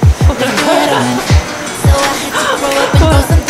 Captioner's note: laughter